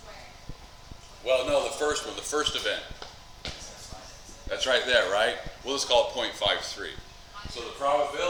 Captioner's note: students answering in background